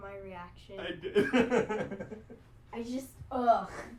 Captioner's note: laughter